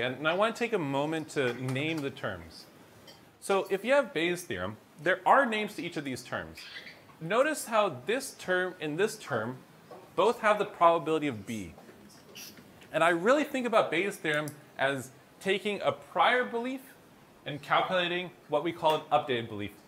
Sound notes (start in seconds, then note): none